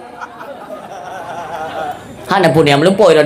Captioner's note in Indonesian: tertawa